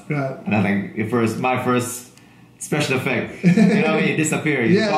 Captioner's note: laughing